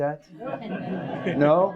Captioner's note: audience laughs